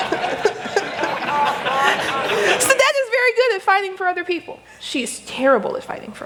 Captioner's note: laughter